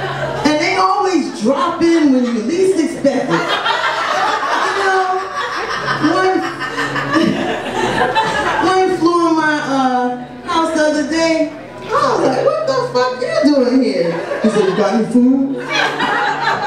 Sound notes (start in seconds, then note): 3.6 audience laughs